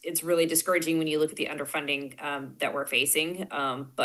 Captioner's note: none